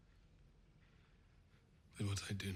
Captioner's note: bird chirping